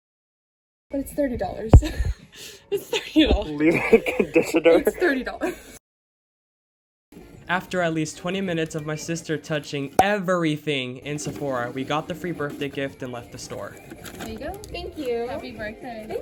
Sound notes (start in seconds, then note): 2.7 laughs; 9.4 scanning sound